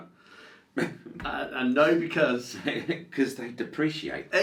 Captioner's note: laughs